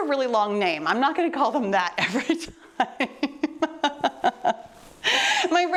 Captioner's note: laughing